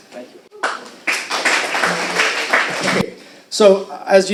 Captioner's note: applauding